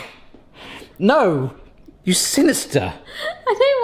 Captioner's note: laughing